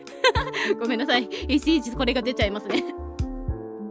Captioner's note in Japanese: 笑い